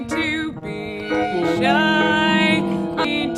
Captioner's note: ponies neighing